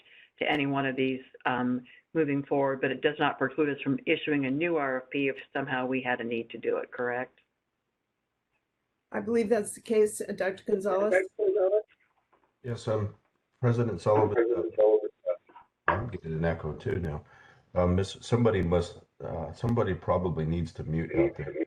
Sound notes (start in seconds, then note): 14.6 echoing